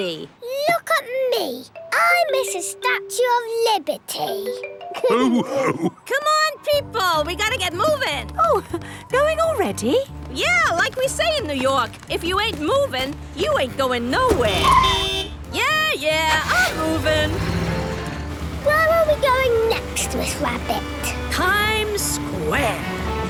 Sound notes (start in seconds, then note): 5.0 all laughing; 14.8 honking